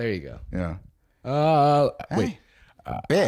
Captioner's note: old man sounds